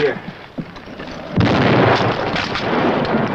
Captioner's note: explosion